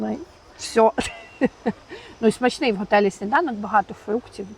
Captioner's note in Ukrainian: сміх